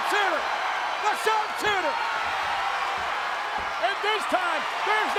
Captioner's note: audience cheers